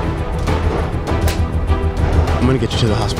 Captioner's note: smacking